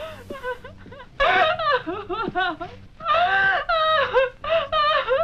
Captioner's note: Diane sobbing